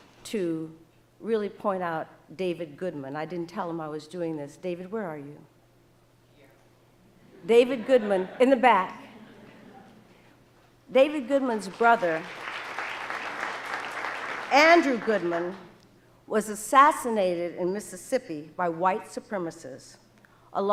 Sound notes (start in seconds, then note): 7.3 audience laughing; 11.7 audience applauding